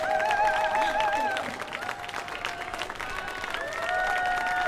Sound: laughs

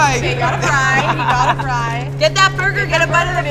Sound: laughs

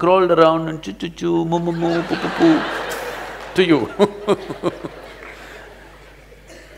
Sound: laughs; laughter

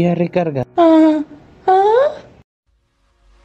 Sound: confused sounds

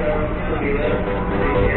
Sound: announcement from Manggarai station

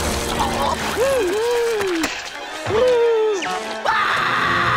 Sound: gasping; screaming

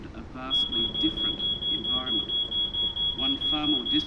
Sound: alarm beeping

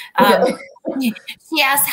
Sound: laughter

